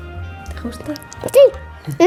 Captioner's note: whisper